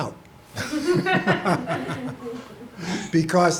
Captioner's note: laughter